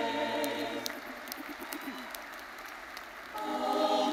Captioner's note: audience applauding